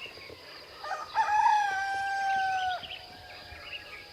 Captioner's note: rooster crows